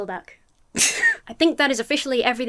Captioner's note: laughs